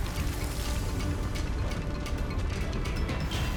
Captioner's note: fire roaring